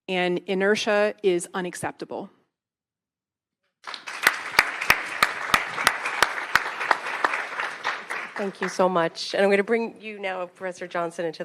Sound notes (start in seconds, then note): 3.8 attendees clapping